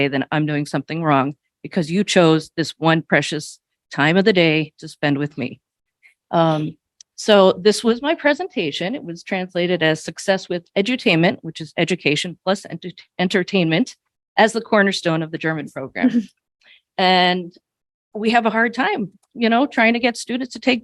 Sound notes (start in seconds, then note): 16.0 chuckles